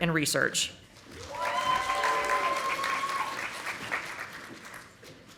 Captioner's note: audience applauding